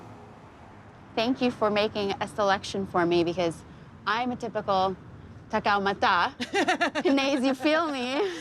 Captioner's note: speaking in Tagalog